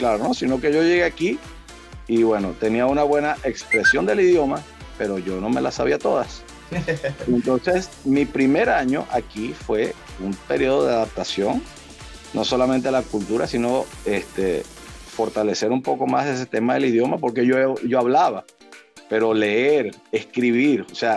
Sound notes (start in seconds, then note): 6.7 laugh